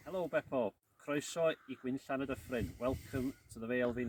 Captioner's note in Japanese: ウェールズ語で